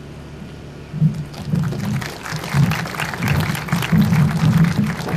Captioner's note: audience starts clapping